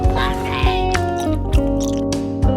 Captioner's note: Pro-pancake chewing